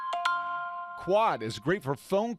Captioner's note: sound of iPhone ringtone